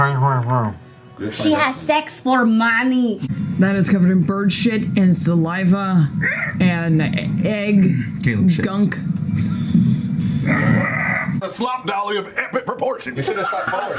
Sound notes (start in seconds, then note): 6.2 squawks; 10.5 squawks again